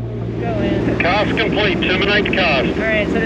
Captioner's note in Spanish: Man Over Radio